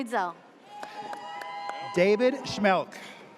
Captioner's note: audience cheers